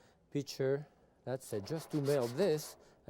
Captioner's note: pan shuffling